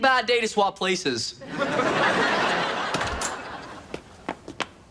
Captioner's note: audience laughs